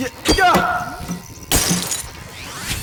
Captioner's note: smashing